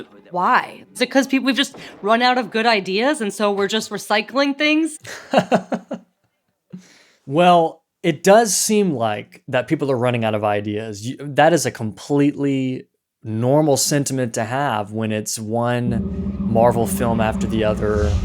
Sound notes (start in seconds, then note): 5.0 laughter